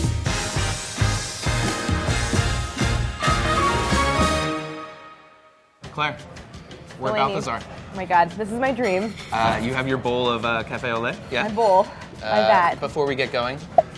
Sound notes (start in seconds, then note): 0.0 upbeat band music; 8.4 hands rubbing; 9.0 light peppy music